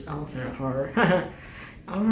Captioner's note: laughing